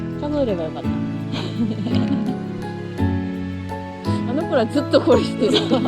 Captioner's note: laughs